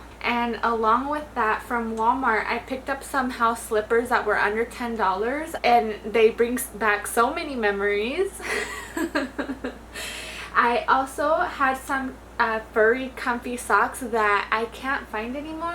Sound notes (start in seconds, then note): 8.4 chuckles